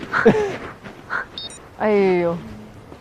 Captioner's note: laughs